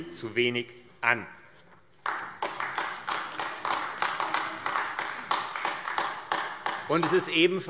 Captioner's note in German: Beifall AfD